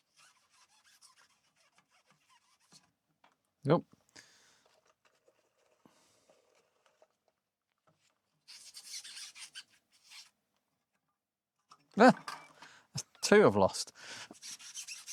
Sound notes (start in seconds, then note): 0.2 silence; 6.4 silence